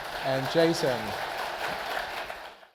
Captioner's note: audience applause